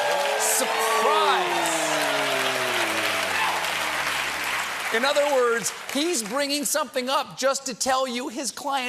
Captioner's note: cheers and applause